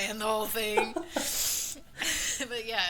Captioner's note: laughing